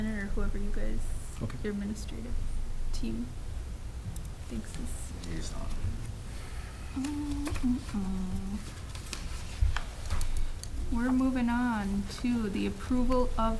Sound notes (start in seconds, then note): 7.2 humming